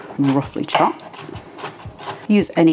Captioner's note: chop chop chop